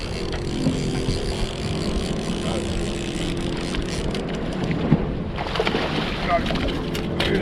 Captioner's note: reel cranking; fish splashing